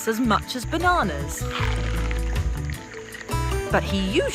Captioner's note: Yoko husking coconut